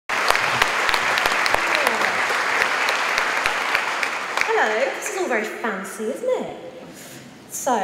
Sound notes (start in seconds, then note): 0.0 audience applauds